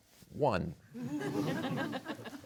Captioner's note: audience laughs